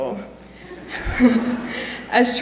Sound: laughter

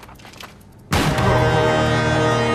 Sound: gunshot

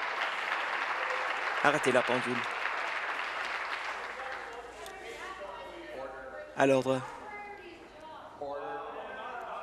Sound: applause

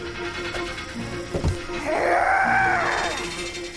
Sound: growling

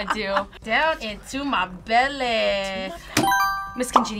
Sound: buzzer rings

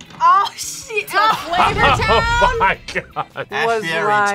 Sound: laughs

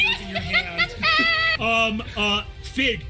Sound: cheers

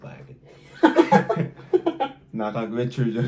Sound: laughing

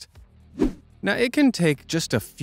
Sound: swoosh

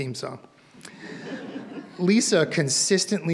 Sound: audience laughs

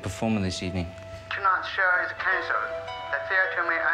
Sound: manager On Phone

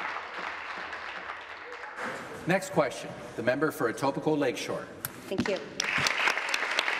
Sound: applause

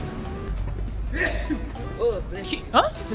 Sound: the person across from me sneezes

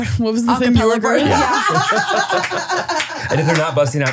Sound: all laughing

